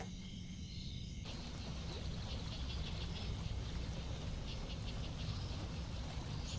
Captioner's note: water gurgles from the stream